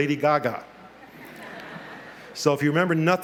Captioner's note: laughter